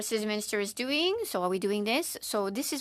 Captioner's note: speaking in French